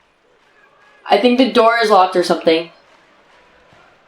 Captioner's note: distant tv noises